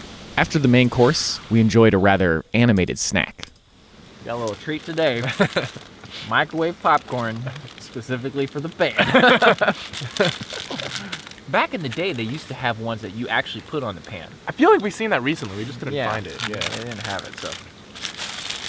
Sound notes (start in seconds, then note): 8.8 both laughing